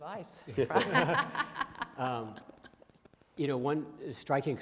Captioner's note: panel laughs